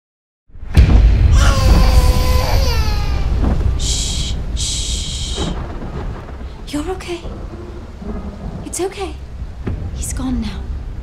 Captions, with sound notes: (baby crying) (thunder roaring) - Sh, sh. You're okay, it's okay, he's gone now.